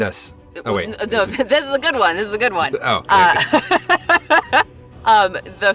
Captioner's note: laughs